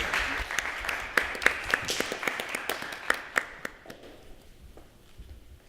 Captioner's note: applause